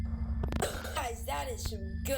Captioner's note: coughing